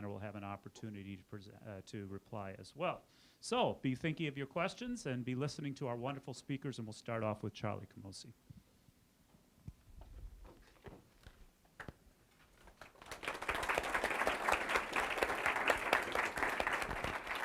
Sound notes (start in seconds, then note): 12.6 audience applause